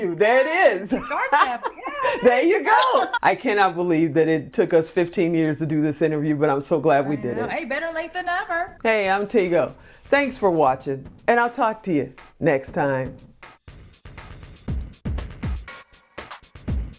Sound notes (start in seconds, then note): 0.9 laughing; 14.3 upbeat music